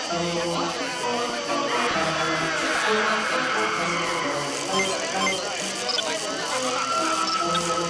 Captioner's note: shrieking in background